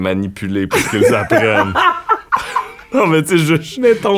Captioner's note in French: éclat de rire